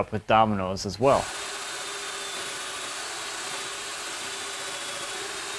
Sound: machine buzzing

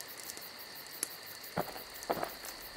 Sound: none

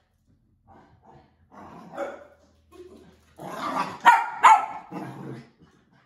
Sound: Berne barking

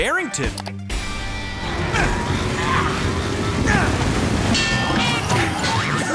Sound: straining

